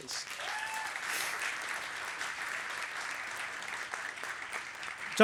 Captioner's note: applause